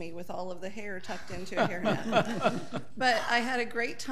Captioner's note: audience laughing